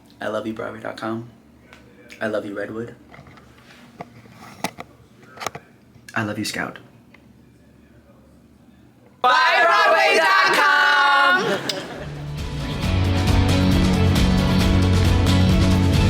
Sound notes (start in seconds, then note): 3.6 camera rattles; 11.7 lips smack; 11.7 people laughing; 12.1 upbeat bright music